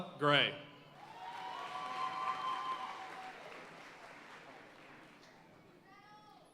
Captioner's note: audience cheering and applauding